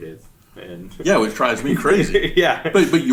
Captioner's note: laughs